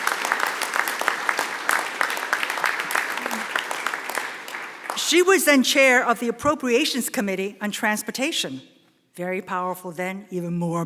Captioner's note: applause